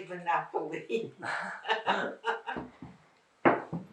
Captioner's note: laughing